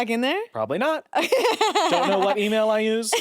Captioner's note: laughs